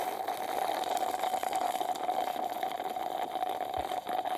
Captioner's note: slurping